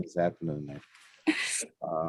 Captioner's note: laughter